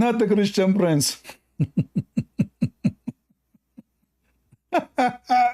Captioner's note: Ketawa